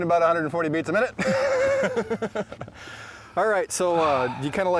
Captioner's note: laughs